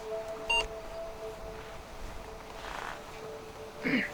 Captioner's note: camera beeping